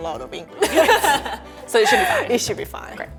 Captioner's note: laughing